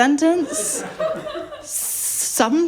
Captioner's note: laughter